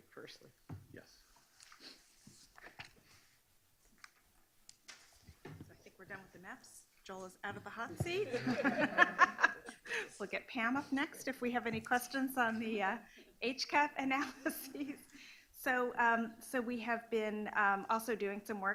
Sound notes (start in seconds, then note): 8.1 laughing